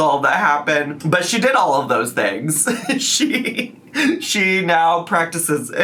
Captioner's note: laughs